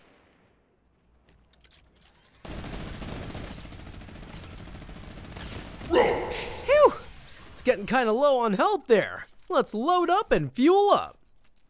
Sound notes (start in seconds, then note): 2.2 minigun unloads; 11.4 weapon changing clangs